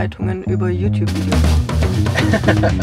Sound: laughs

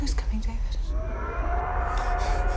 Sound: Red Sister screams

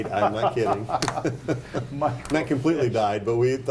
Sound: laughing

